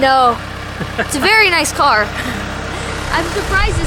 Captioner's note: laughs